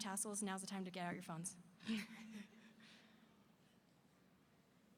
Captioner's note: chuckles